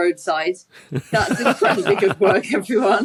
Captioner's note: laugh